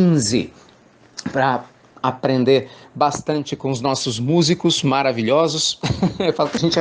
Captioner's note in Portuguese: Risos